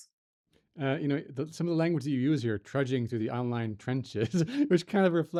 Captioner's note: laughs